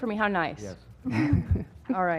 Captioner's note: laugh